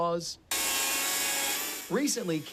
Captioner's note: saw whirring